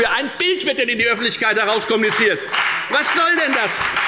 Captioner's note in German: Beifall bei der FDP